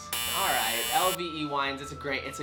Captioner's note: scoreboard buzzes